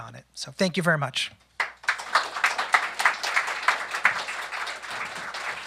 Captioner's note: applause